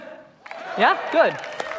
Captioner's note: audience applauding